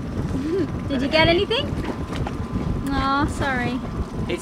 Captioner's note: laughs